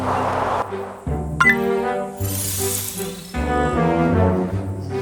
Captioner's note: click